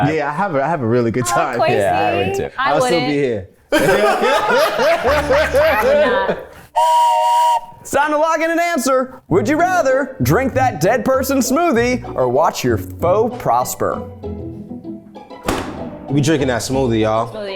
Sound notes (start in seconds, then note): 3.7 everyone laughs; 6.7 whistle blows